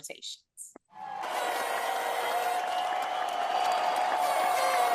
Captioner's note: cheering